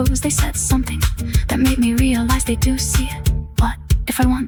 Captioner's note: female voice 1